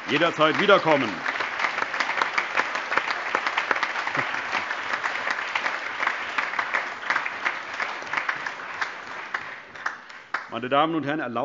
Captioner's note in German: Allgemeiner Beifall